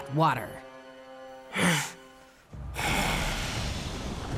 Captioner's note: breathing